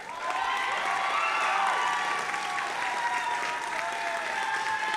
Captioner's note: audience applauding and cheering